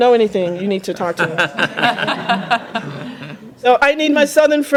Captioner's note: laughter